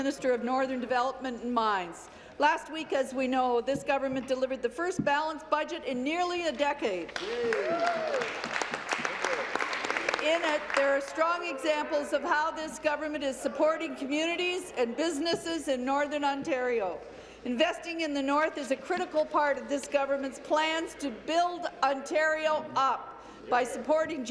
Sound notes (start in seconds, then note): 11.0 applause